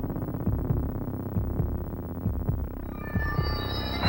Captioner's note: mysterious music; heart beating